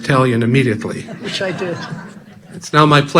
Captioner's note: audience laughing